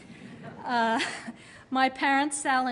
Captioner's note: laughter